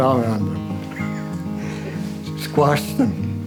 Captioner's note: laughs